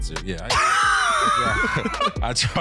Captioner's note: laughing